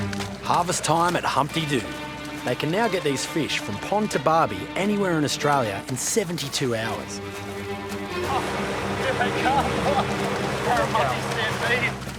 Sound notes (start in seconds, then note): 8.1 laughs